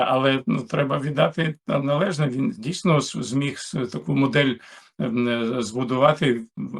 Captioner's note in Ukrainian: прочищення горла